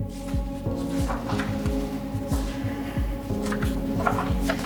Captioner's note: papers rustle